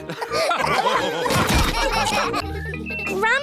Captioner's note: laughter; children giggling